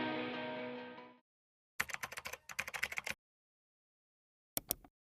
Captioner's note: upbeat music; keyboard clacking